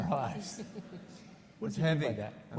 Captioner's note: laughs